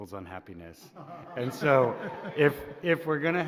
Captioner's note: laughter